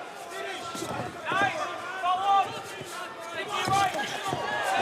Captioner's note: yelling